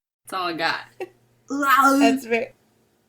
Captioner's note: makes Arnold noises